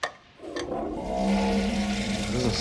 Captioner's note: groaning flusher